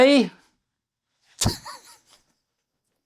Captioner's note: laughs